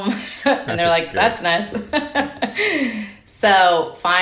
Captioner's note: laughing